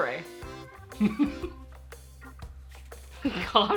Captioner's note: laughs